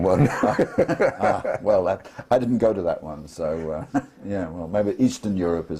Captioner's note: laugh